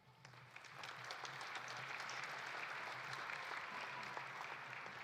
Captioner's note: audience applauding